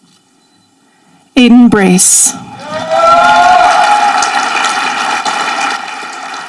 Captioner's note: audience applauding